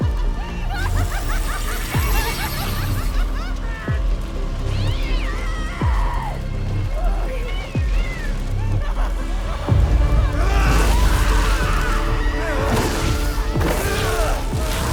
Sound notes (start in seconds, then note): 0.0 cackles manically; 4.8 screams; 8.2 yowls; 8.5 cackles manically; 11.0 yells; 11.5 fire roaring; 12.9 grunts; 13.6 magic whooshing